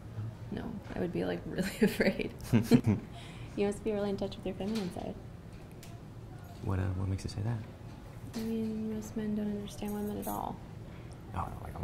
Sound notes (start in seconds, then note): 2.4 laughing